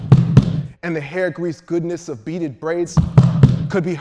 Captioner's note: feet stomping; feet stomping